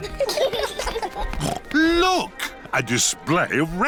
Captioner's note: laughter; snorts